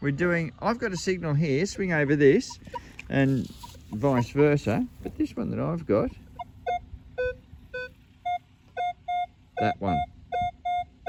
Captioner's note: beep beep